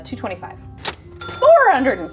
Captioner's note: cash register ringing